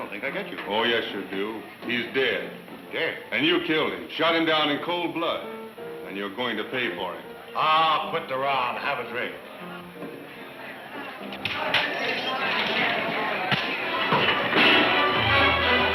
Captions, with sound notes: - I don't think I get you. - Oh yes, you do. He's dead. - Dead? - And you killed him. Shot him down in cold blood and you're going to pay for it. - Ah, quit the row and have a drink. (blows thudding) (men shouting) (dramatic music)